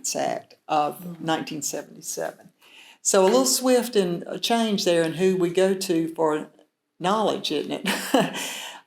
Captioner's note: chuckles